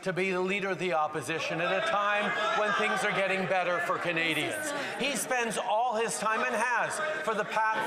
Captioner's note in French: voix de l'interprète